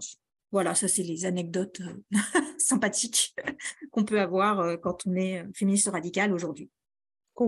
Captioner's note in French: rires